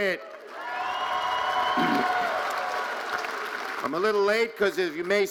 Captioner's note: audience cheering and applauding